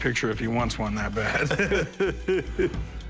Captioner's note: laughter